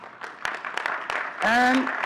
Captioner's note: audience clapping